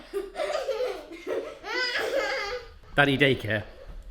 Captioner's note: children laughing